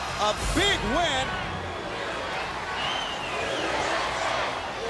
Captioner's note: crowd chanting "USA!"